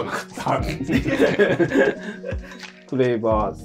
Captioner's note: laughing